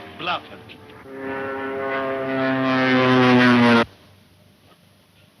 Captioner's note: airplane engine revving